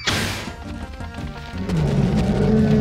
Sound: growling

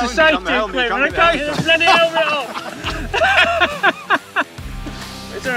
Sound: laughs

